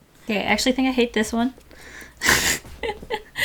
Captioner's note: laughs